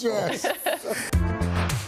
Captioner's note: laughter